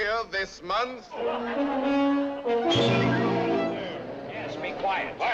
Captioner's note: confusion, rumors, exclamations